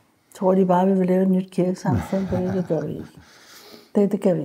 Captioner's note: laughs